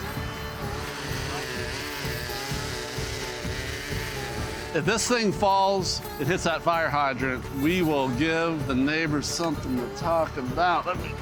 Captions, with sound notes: (chainsaw buzzing) (upbeat music continues) If this thing falls and hits that fire hydrant, we will give the neighbors somethin' to talk about.